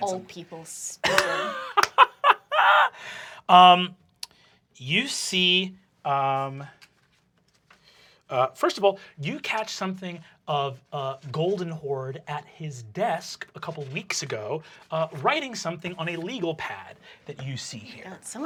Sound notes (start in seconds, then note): 1.0 laughing